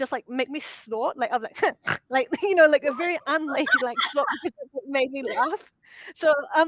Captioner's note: snorts; laughter